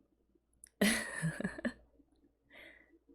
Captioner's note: laughs